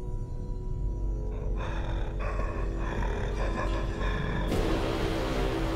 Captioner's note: mummy snarling; intense music